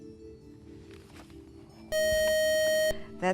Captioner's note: buzzer